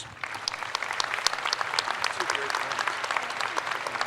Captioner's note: audience applauds